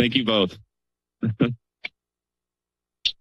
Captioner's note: chuckles